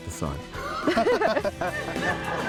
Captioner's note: laughter